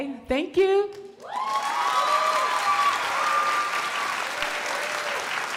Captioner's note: crowd cheering and applauding